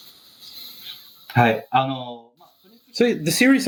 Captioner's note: speaking japanese